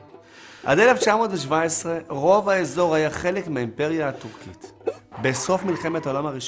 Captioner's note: Turkish